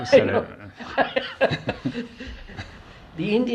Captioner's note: laughs